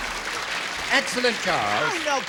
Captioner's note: applause